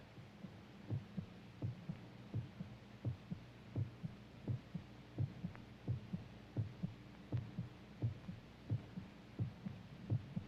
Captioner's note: rhythmic thumping